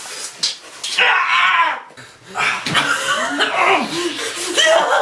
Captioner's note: Frank screaming